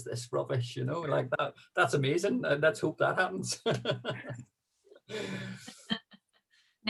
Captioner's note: laughing